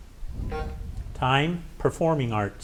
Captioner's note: timer buzzing